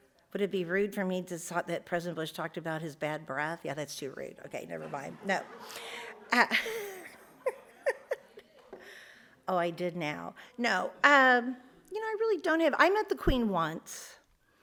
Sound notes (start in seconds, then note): 4.5 audience laughs; 6.5 laughs